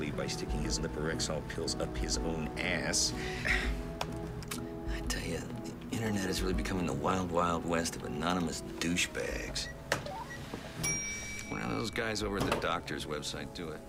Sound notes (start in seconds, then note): 9.5 microwave beeps; 10.0 computer beeps